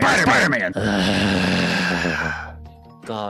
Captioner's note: sighs